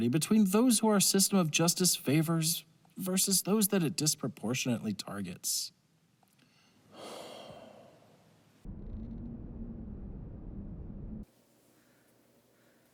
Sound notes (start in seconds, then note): 6.9 deep sigh